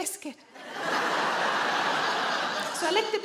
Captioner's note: audience laughing